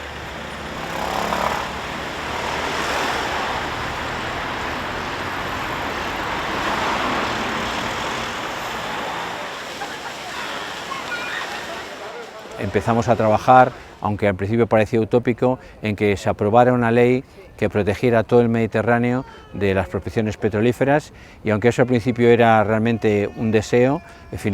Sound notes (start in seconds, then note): 18.3 Spanish